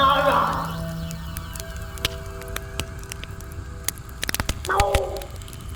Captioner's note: fire crackling continues